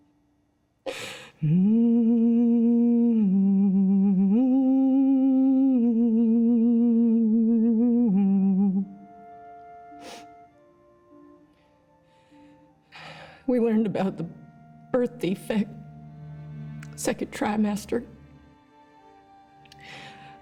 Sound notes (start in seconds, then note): 1.3 humming; 8.6 slow tempo music